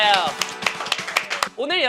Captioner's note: clapping